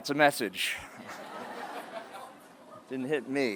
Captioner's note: laughter